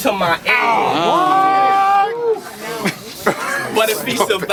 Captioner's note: crowd Reaction